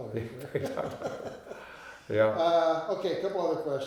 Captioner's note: both laughing